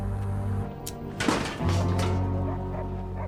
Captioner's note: clanking; dog barking in distance